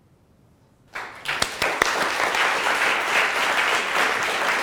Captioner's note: audience applauding